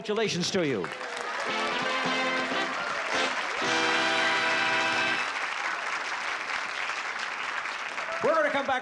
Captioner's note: applause and cheering